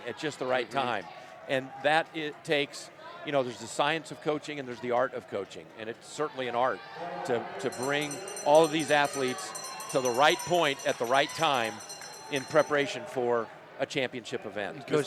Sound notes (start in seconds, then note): 11.7 bell ringing